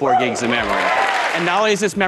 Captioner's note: cheering